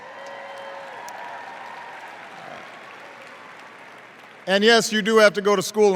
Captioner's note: cheers